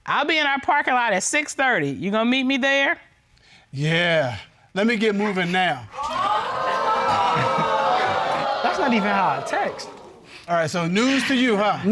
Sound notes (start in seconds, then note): 5.9 audience exclaiming